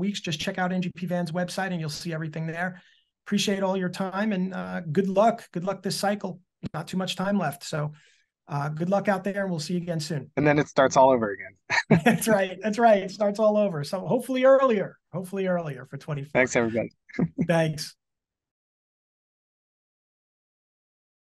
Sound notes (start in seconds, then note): 11.6 laughing